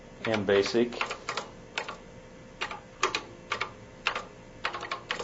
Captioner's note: keys clacking